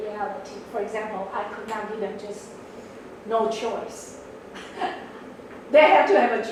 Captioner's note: laughs